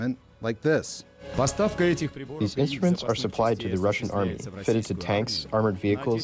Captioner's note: through translator